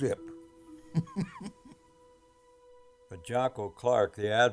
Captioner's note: chuckling